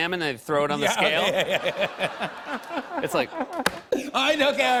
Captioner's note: laughter